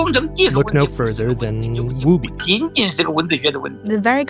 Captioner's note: speaking Mandarin; speaking Mandarin